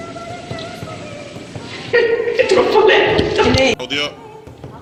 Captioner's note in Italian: Risata